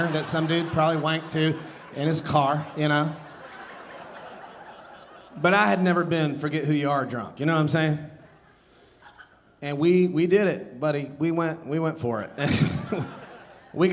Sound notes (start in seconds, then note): 3.3 audience laughing; 12.2 audience laughing